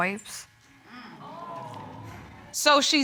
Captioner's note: audience exclaims